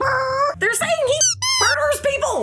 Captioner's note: makes squealing car sound